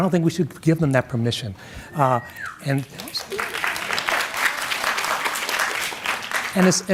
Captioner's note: audience claps and whistles